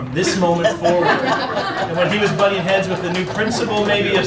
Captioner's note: laughing